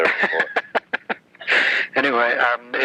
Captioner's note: laughs